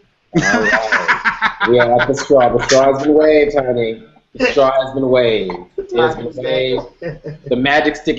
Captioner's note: laughter